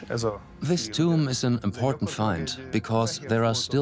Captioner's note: dubbed in English